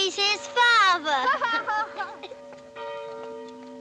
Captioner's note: laughing; bell Tolling